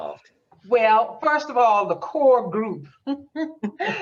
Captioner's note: laughs